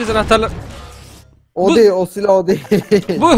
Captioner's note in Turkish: Gülerek